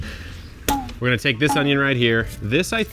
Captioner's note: spring boings